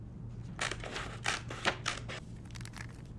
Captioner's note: scissors cutting